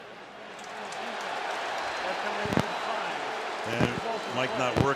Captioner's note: cheering